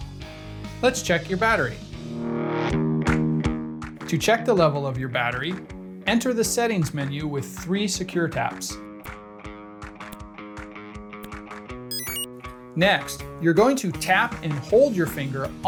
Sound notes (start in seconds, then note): 11.9 enter chime